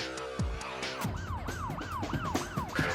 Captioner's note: siren wails